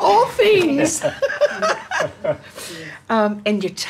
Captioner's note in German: lacht